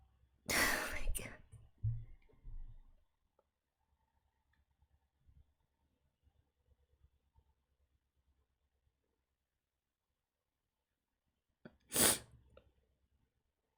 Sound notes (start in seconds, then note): 11.9 sniffs